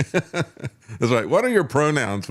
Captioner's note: laughs